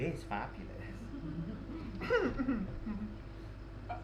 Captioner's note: alfred laughs nervously